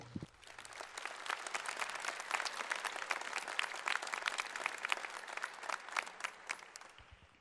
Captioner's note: applause